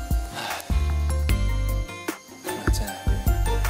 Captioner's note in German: Seufz